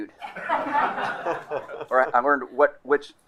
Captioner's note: crowd laughing